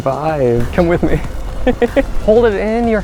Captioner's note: laughs